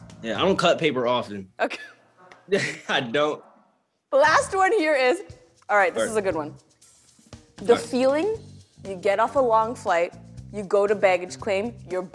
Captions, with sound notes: - Yeah, I don't cut paper often. - Okay. [laughter] - I don't. - Last one here is-- all right, this is a good one. The feeling-- you get off a long flight, you go to baggage claim,